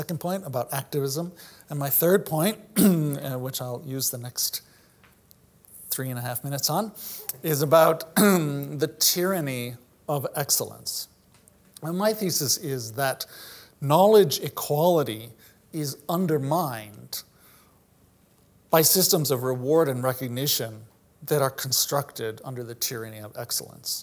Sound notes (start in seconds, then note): 8.1 cough